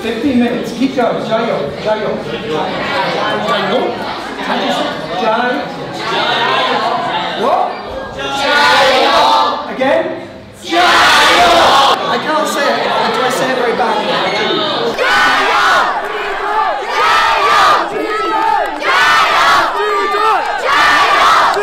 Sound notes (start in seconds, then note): 1.2 foreign language; 1.9 students responding in foreign language; 17.5 cheering in foreign language